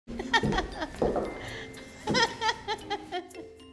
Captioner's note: laughing